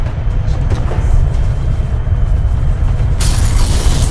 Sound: deep rumbling

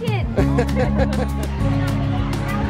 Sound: laughs; upbeat music

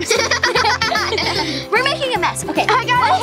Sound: giggling

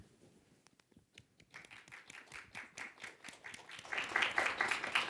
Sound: applause

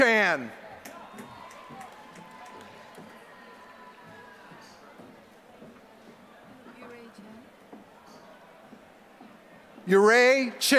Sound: applause

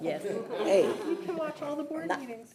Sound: board laughing

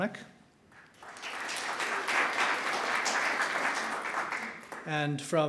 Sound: audience clapping

